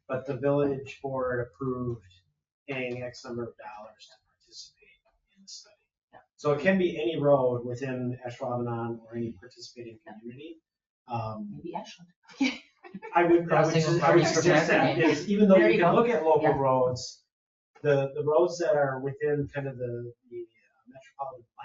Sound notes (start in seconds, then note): 12.9 people chatter; 12.9 people chuckle